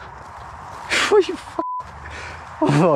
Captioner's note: beep